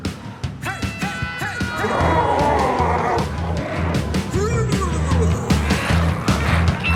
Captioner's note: glowzies growling